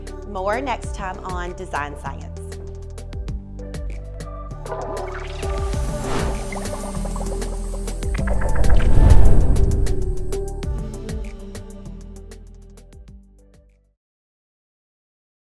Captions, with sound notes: More next time on "Design Science." (relaxing music) (logo bubbling and whooshing)